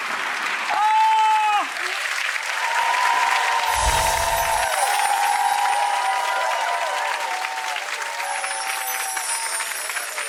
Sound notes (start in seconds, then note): 0.5 audience cheers